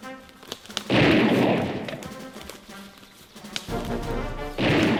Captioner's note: gunshots bang